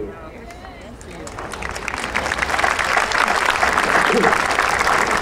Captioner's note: audience applauding